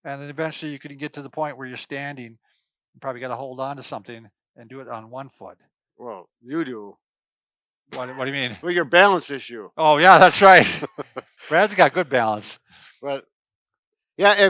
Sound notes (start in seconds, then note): 10.3 laughs